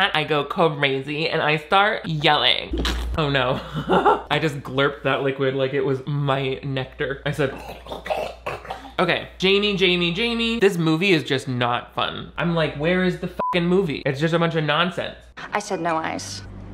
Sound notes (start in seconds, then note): 2.8 big slurping; 7.7 glurping and slurping; 13.4 beeping